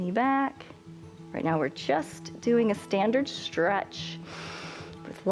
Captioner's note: inhales